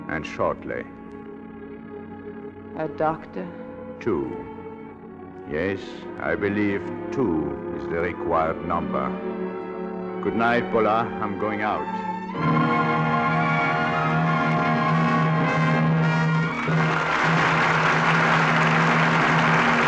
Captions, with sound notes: And shortly. A doctor? Two. Yes, I believe two is the required number. Good night, Voila, I'm going out. (audience applauding)